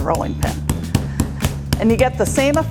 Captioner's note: rolling pin thudding